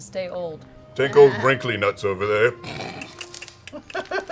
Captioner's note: laughs